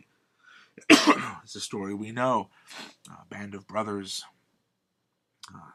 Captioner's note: coughs